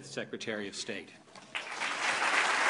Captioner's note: applause